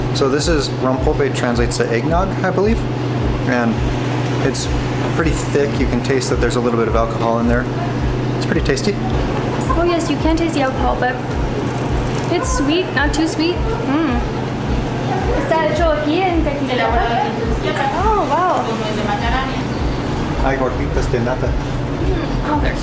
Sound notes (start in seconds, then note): 15.4 speaking in Mexican